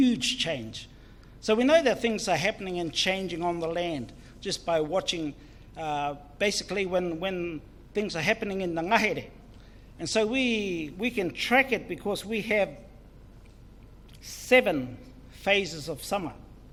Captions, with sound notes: huge change, so we know that things are happening and changing on the land just by watching basically when things are happening in [Foreign Language] and so we can track it because we have seven phases of summer